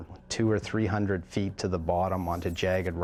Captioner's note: voiceover